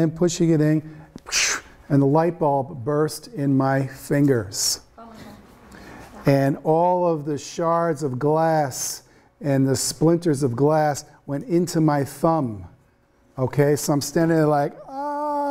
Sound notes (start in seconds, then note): 1.3 exhales loudly; 5.2 students murmuring